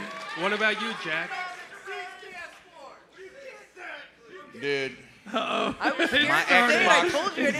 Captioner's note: cheers and applause